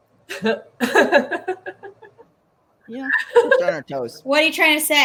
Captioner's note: laughs